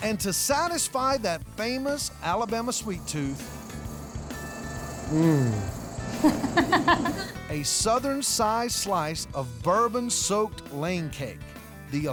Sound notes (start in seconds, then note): 6.0 laughs